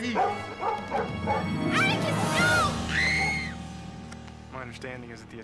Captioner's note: screams